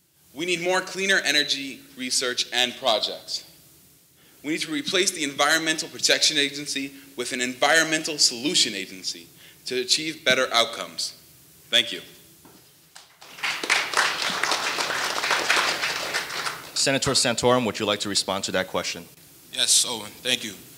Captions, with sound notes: We need more cleaner energy research and projects. We need to replace the Environmental Protection Agency with an Environmental Solution Agency to achieve better outcomes, thank you. (audience applauding) - Senator Santorum, would you like to respond to that question? - Yes Owen, thank you.